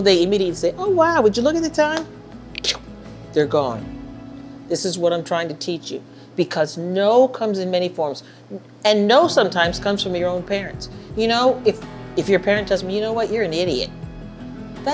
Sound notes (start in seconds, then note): 2.5 mimicking swooshing